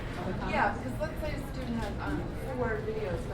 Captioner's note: voiceover